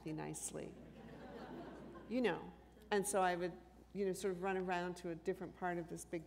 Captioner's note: laughter